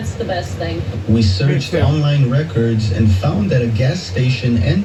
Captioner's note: on TV